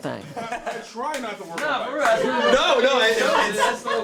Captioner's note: general background chatter and laughter